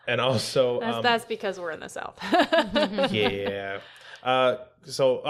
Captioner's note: laughter